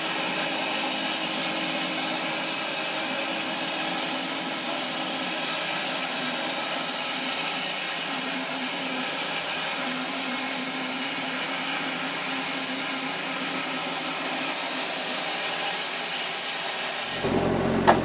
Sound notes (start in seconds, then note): 3.1 saw whirring; 10.0 saw whirring; 15.0 engine revving